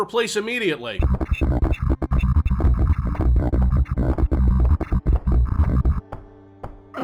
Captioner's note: nightmarishly bit-crushed voice lines